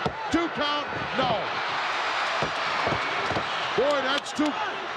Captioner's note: crowd cheering